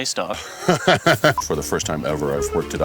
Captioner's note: laughs